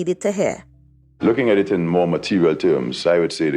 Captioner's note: soundbite of archived recording